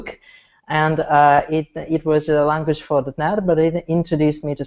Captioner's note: audio blurs